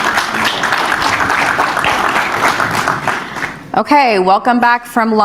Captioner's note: crowd clapping